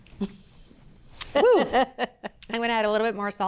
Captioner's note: laughs